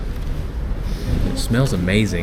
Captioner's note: sniffs